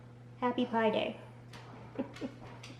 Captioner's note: giggles